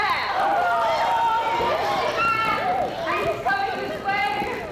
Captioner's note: chaotic shouting